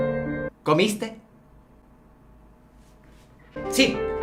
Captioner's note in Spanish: Silencio retrasadito